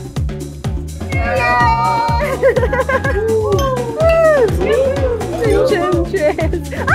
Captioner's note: cheering and 'woow'